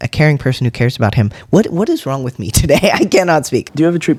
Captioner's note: laugh